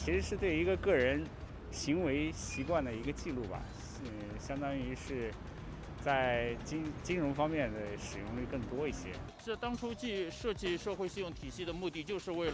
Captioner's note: speaking foreign language